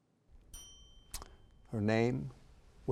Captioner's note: bell rings